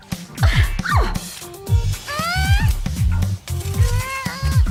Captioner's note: grunting